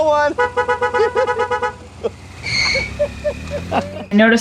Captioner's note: horn honking; laughs